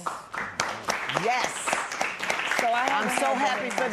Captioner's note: applause